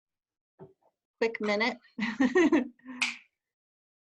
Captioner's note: laughter